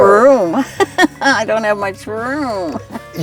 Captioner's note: laughing